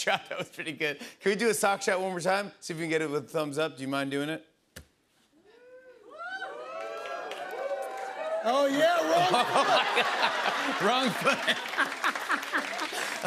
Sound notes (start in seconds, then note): 6.0 cheering; 9.0 laughs